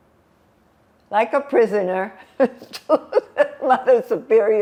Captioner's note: laughing